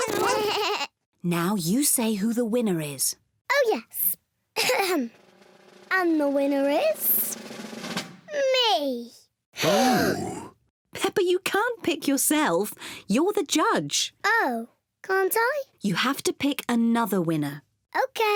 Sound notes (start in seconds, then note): 0.0 all make animal sounds; 7.3 drum roll; 9.6 all gasp